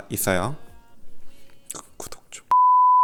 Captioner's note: whispering